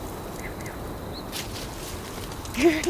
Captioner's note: crickets chirping